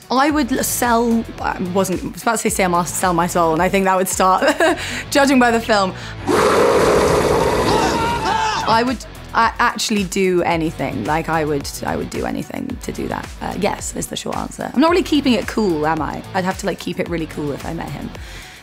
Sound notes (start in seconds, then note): 4.8 laughs; 6.2 roaring; 6.2 screaming